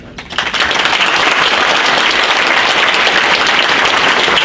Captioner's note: audience applauds